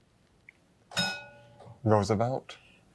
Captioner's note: bell dings